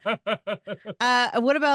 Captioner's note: laugh